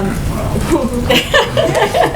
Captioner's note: laughter